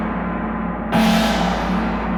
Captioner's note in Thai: เสียงฆ้อง